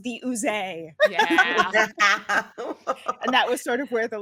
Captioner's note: cast laughing